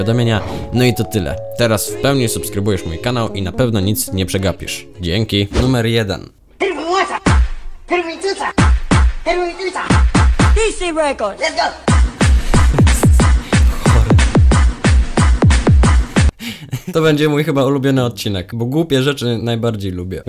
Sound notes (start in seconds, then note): 11.5 laugh; 15.9 laugh